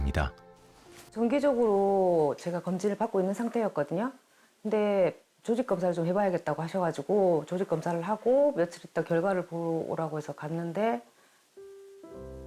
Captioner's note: voiceover